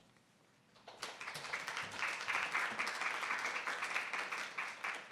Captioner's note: audience clapping